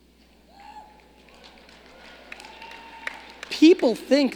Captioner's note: audience cheering